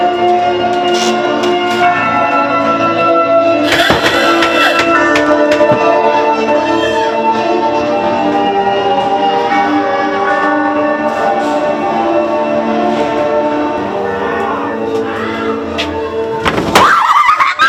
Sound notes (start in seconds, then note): 6.4 frenzied laughing and screaming; 6.4 heavy metal music